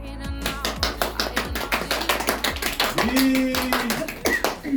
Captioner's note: audience claps